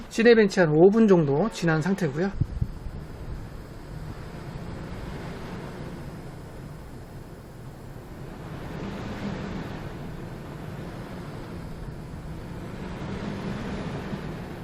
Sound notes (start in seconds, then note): 2.3 radiator fan noise